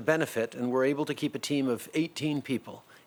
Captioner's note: speaking in French